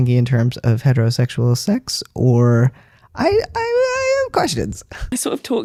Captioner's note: high voice